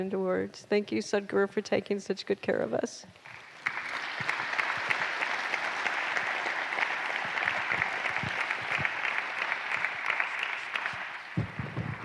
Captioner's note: applause